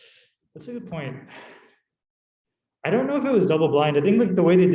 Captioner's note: sighing